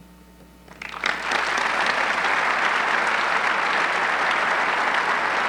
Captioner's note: audience clapping